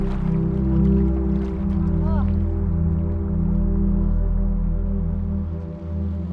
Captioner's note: water splashing gently; gentle music